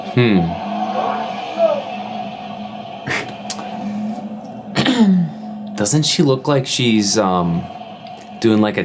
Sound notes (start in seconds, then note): 1.6 police shouting